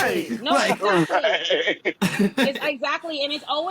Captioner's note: laughing